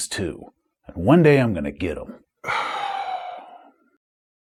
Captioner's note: sigh